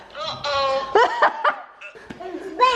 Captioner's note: laughing